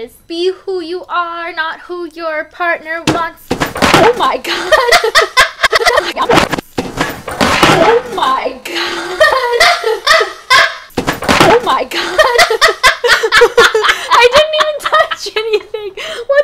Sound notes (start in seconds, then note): 3.2 books crash; 4.4 girls laugh; 6.1 books crash; 8.6 girls laugh; 10.9 books crash; 13.3 girls laugh